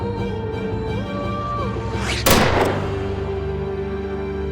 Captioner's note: gunshot